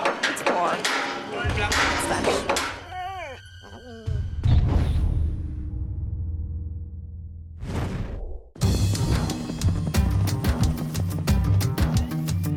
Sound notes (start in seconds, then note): 2.9 ominous music; 3.3 dog whimper; 8.7 upbeat music